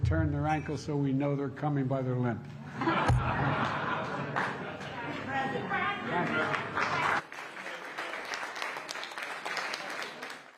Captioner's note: laughter